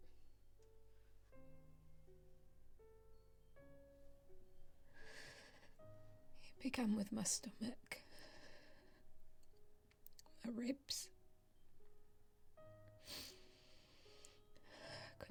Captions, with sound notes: (Grace breathing heavily) He began with my stomach, my ribs, (Grace sniffles)